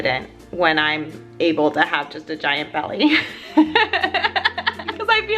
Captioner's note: laughs